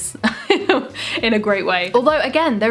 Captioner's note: laughs